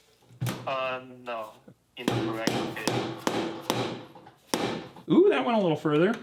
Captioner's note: hammer thumping